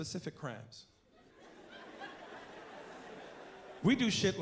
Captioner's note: laughter